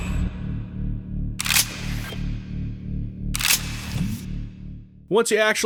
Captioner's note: unlocking sci-fi doors/mechanisms noises; unlocking 'click' noises